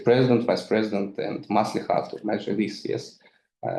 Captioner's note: speaks in foreign language